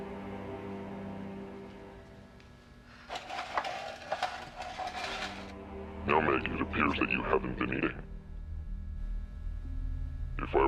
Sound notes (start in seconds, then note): 3.0 tray dragging